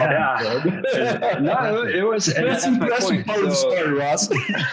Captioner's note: all laughing